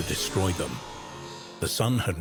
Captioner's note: energy whirring